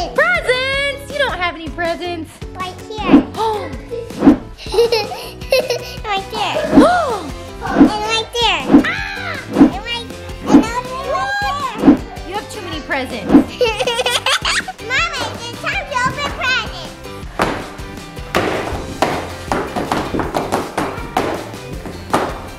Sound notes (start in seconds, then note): 4.4 laughs; 5.1 mom gasps; 8.9 mom screams; 13.4 laughs; 17.4 upbeat music; 18.2 fins thudding